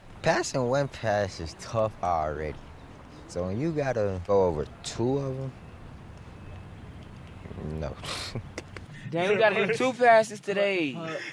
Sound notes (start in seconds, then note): 7.9 chuckles